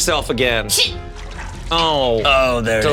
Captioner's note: water trickling SFX